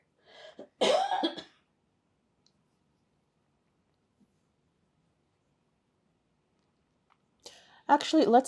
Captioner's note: pauses 6 seconds